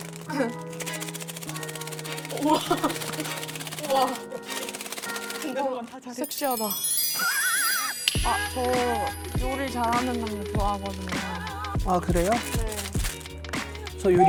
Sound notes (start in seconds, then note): 6.3 sound effect: admiring tone